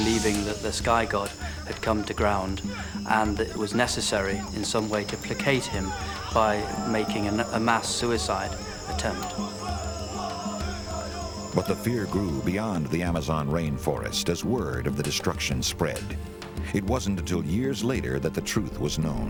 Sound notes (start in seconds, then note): 9.4 chanting in native language